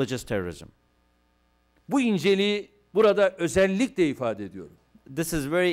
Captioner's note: non-english speech